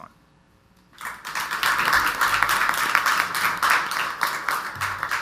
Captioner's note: audience applauds